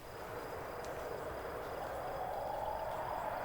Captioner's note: wind howls